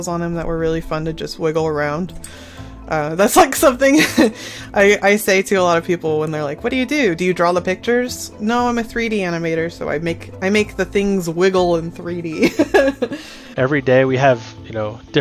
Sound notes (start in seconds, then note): 3.9 laughs; 12.3 laughs